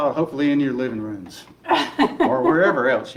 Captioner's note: laughing